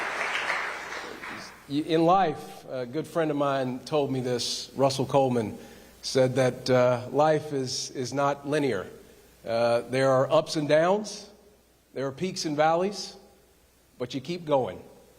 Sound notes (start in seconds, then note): 1.7 applause